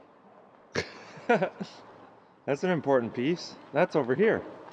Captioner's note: laughs